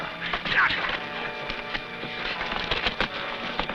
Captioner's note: men grunting